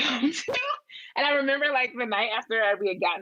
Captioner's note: laughs